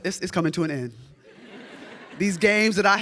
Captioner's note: audience laughs